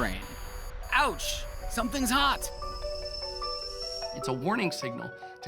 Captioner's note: whistling